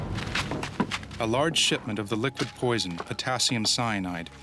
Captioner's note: voiceover